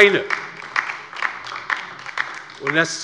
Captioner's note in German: Beifall bei der LINKEN